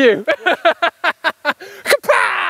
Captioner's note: laughing